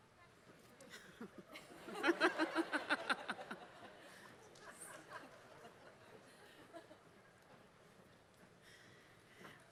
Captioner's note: laughter